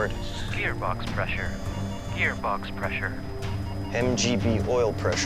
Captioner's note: recorded Voice